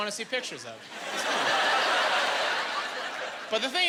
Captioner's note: laughing